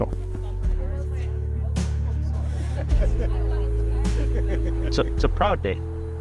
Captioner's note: audience murmuring